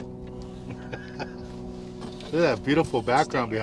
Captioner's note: laughing